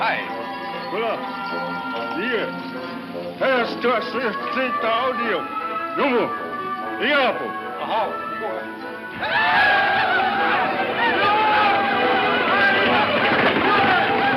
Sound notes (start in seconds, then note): 9.0 Indians yell